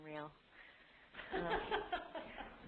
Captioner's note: laughter